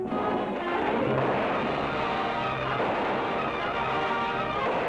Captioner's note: guns firing